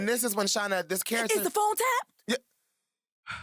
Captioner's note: mimics shawna's voice